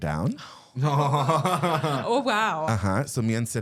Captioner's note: zak giggling